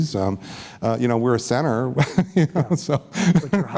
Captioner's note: laughs